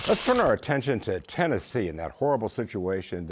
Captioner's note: paper tearing